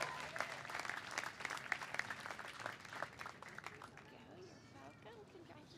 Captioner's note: cheers and applause